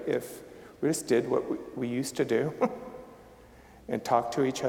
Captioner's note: chuckling